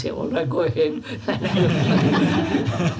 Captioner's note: laughter